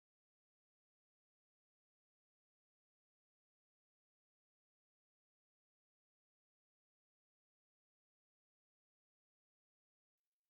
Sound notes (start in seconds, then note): none